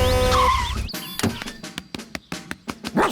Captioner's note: honks and brakes